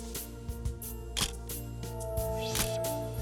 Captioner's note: camera shuttle click